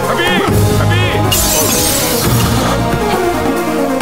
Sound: windshield shatters

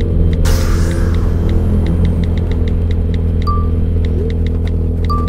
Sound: mysterious music; typing on phone

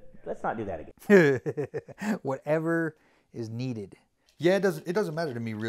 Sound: laughs

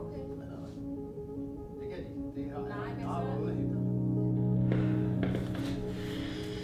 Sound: family conversing in foreign language

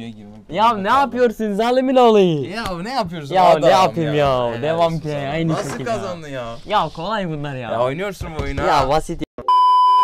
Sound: are trying to speak in a dialect

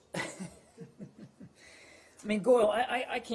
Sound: laughter

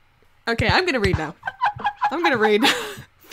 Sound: laughing in the background

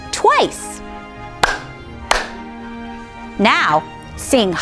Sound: claps twice

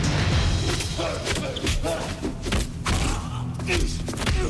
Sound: grunting

